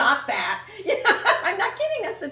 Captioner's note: laughter